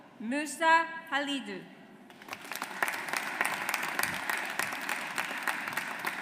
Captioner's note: audience applauds